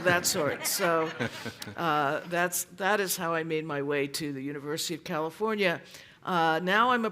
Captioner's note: laughter